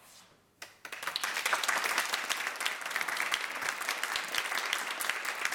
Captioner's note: audience applauding